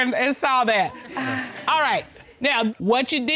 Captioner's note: chuckles